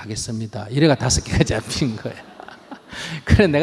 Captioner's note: audience Laughter